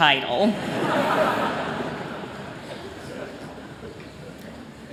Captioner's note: laughter